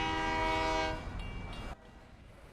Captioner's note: horn blowing; crossing bells ding